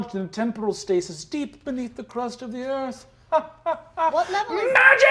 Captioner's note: laughing